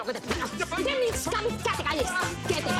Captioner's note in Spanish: Exclamaciones